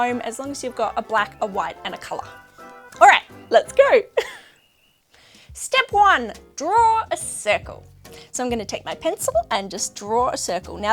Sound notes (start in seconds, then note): 4.1 laughs